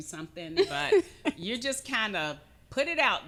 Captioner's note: chuckling